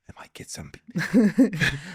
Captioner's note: laughing